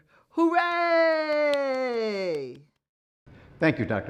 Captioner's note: clapping